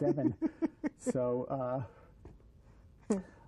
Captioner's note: laughter